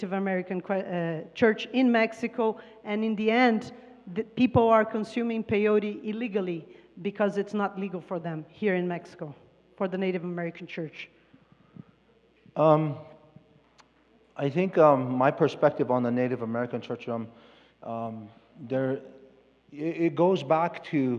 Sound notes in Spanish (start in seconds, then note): 4.8 Expositor habla en inglés